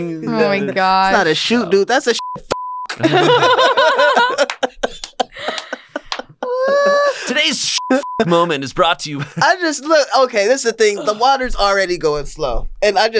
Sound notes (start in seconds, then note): 2.9 laughter